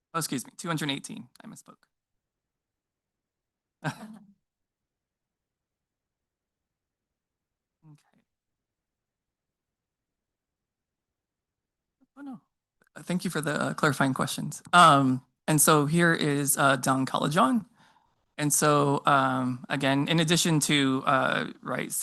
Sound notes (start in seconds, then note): 3.8 and trustees laughing